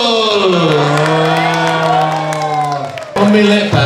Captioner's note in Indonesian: tepuk tangan